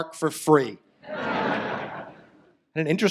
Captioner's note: audience laughs